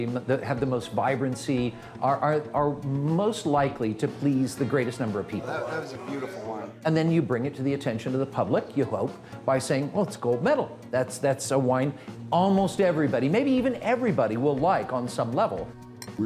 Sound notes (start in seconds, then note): 7.1 voiceover